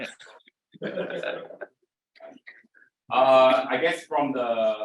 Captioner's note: both chuckling